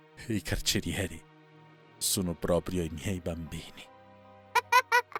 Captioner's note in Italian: risate